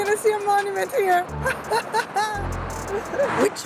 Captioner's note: laughs